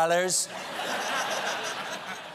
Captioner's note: laughter